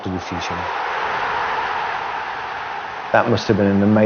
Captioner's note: crowd roaring